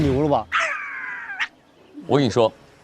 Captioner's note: sniffing intensifies